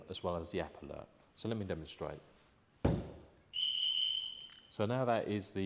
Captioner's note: thumps back of van - alarm goes beep beep beep